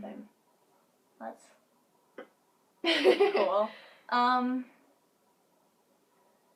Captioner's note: laughs